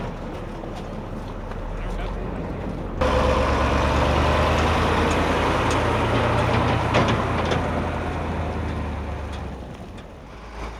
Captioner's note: sounds of heavy truck pulling away with the gun